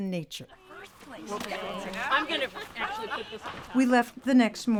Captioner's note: women chatting